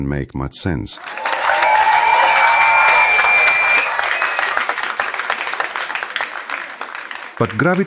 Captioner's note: audience cheering